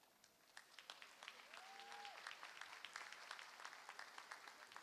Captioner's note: applause